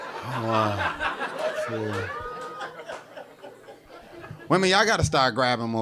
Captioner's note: audience laughing